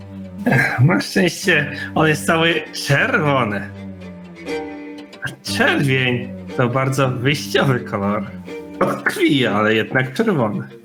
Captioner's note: mumblin shit about blood